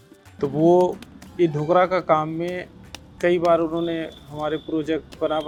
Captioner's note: speaking foreign language